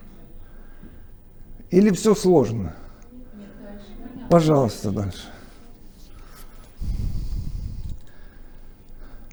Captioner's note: chatting